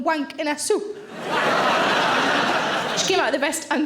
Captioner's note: audience laughing